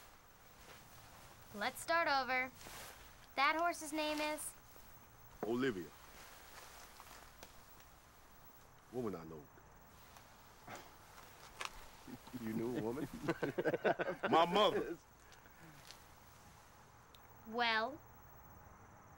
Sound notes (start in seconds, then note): 12.1 laughs